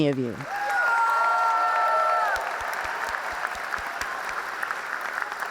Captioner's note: audience cheers and applauds